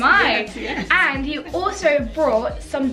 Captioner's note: laughs